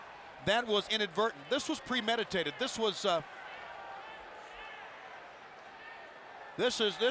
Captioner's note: applause